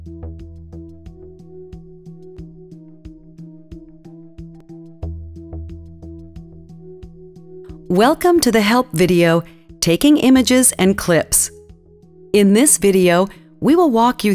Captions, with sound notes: (calm music) - [Voiceover] Welcome to the help video, Taking Images and Clips. In this video, we will walk you through